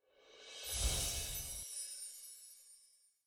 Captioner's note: bells chime